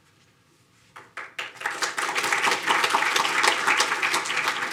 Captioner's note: audience applauding